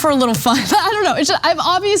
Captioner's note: laugh